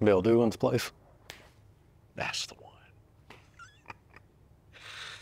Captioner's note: snaps fingers; laughing